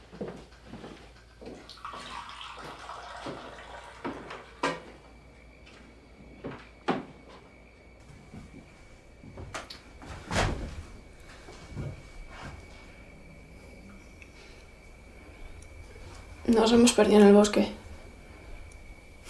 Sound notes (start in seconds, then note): 1.6 tea pouring; 11.7 crickets